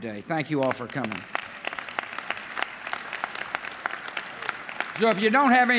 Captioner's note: applause